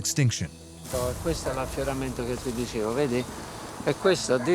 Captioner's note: speaking Italian